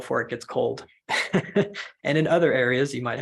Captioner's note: laugh